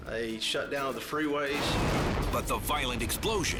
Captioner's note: explosion booming